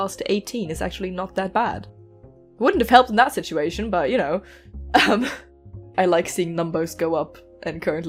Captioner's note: laughs